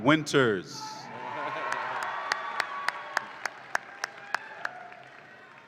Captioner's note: audience applauds and cheers